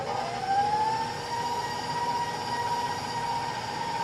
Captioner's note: mixer whirring